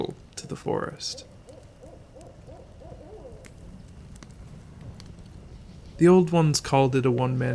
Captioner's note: owl hooting. Fire continues to crackle